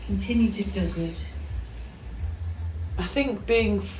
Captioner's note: soft waves